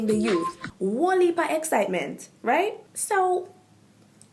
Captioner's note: jamaican patois